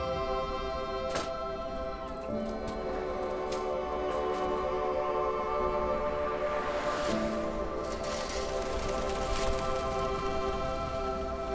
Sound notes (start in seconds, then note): 5.7 car whooshing; 5.7 soothing music continues; 9.1 wings fluttering